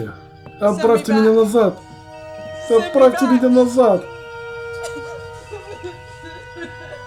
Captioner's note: sobs